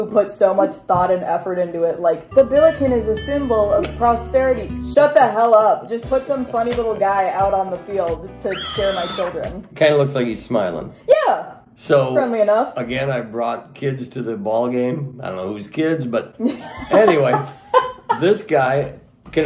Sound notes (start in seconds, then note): 2.3 etherial music; 8.5 screaming sound; 18.0 laughing